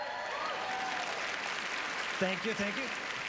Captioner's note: applause